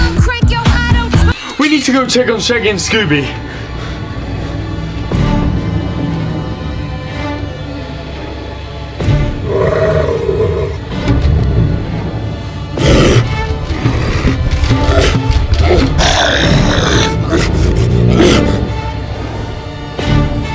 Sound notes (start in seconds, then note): 9.9 werewolf growling and snarling; 13.5 claws tapping